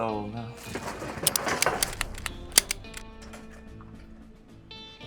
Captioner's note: guns cocking